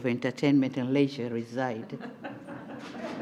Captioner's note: laughter